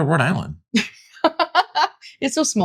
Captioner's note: laughs